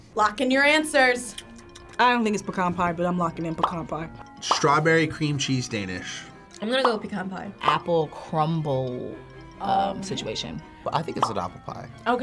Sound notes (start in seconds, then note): 3.9 bubbles popping; 6.8 bubble popping; 11.2 bubble popping